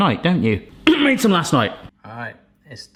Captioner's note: coughs